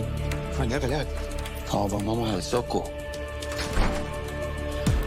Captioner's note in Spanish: Parcero exclama